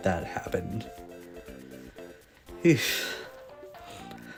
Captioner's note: deep breath